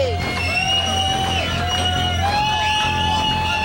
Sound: crowd cheers

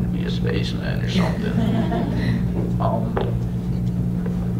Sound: laughter

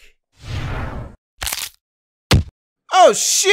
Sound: neck snaps; thud

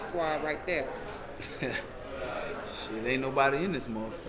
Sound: laughing

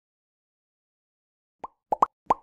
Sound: popping Sound

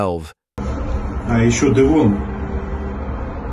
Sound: Russian language

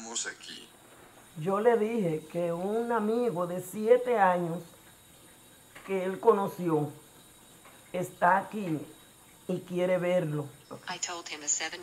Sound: in Spanish

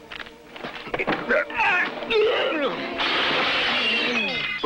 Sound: groaning

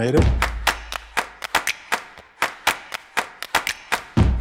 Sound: rhythmic clapping

